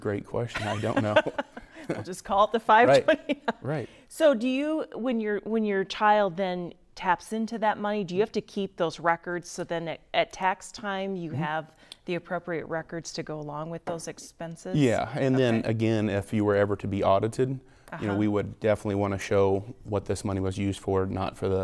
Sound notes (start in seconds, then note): 0.6 laughing